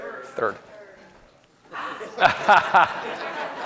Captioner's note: laughs